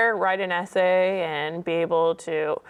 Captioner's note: none